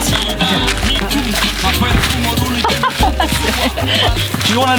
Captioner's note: laughing